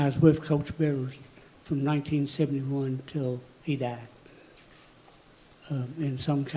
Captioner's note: none